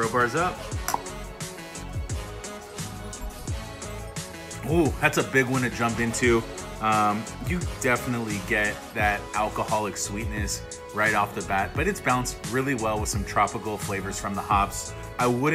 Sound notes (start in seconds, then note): 0.9 glasses clink